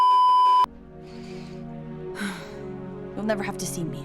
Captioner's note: beeeeeeeeeeeep; inhales & exhales in resignation